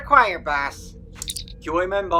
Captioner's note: communicator chirp